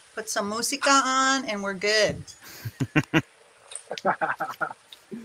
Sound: men laughing

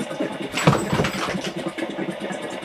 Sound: the demon thuds

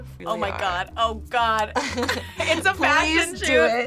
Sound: both laugh

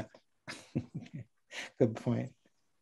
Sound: laughing

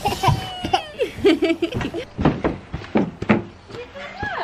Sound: laughter

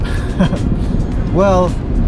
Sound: chuckles

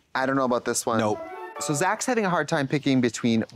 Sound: bright chime

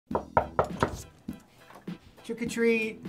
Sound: knocking

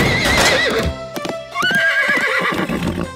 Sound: neighing

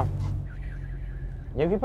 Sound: whistle

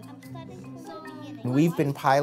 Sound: kids talking

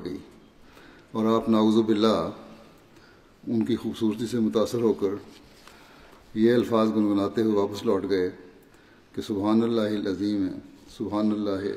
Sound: Arabic

